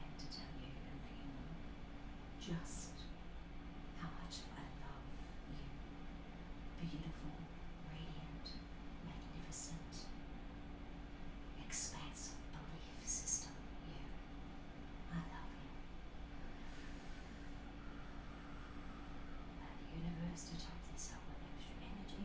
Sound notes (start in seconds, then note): none